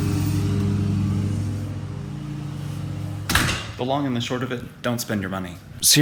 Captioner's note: lawn Mower